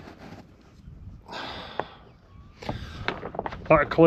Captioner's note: sighs